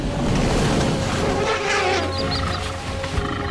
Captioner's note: elephant trumpets